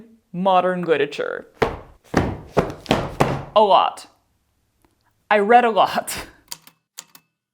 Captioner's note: thud... thud... thud thud thud; A typewriter clicks away, then dings